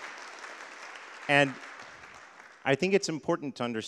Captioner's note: applause